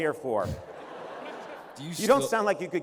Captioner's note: laughter